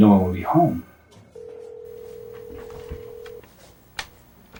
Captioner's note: phone ringing